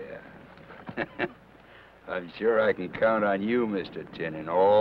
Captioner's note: chuckles